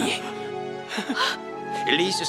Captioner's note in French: Becca s'exclame